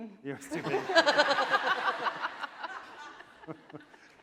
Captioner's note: laughing